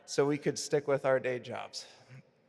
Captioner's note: none